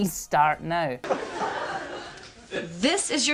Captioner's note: laughing